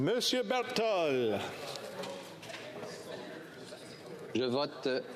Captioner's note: speaking FRENCH